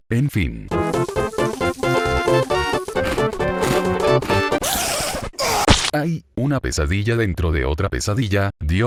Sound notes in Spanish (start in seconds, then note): 4.6 Sonidos de araña asesina; 5.3 Sonidos de muerte